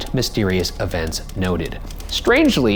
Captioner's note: keyboard keys clacking